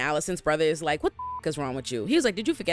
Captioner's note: beep